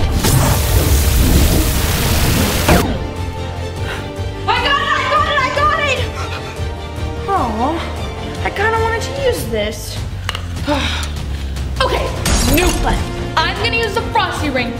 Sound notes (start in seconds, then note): 0.0 zapping fire; 3.3 blowing ring; 10.2 sighing; 12.5 crashing